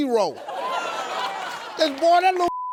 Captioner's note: audience laughs